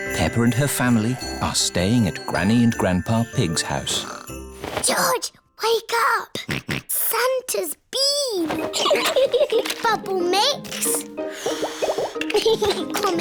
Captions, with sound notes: Peppa and her family are staying at Granny and Grandpa Pig's house. -George, Wake up. -(SNORTS) Santa's been. (BOTH LAUGH) Bubble mix.